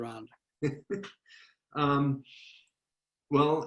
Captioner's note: laughing